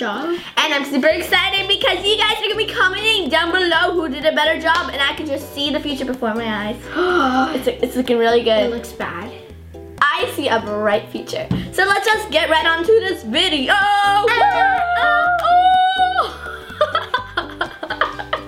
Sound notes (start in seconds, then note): 6.8 gasp; 14.3 laughs